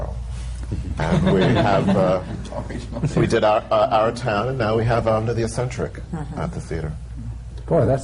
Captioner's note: laughter